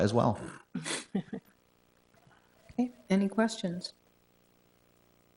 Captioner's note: chuckles